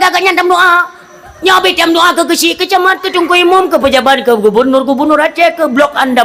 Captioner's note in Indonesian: berteriak